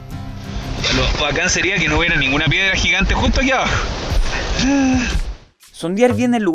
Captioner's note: sobbing